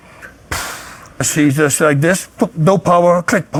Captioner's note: deeply exhales